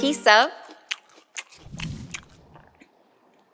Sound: cake eating noises

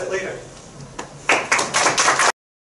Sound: crowd applauding

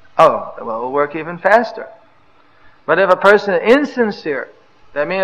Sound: none

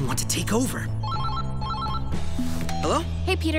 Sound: phone rings

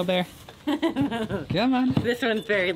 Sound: laughing

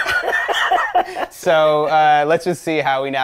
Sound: laughing

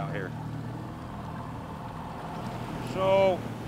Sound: boat engine idling

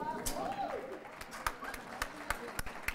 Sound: applause

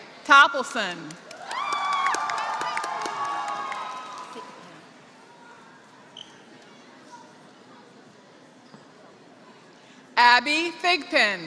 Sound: applause

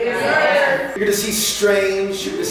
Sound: crowd

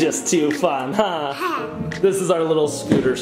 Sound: chuckles

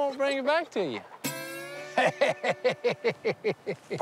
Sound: laughing

